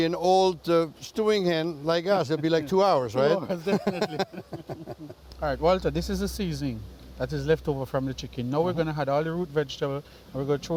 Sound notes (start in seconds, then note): 3.4 laughter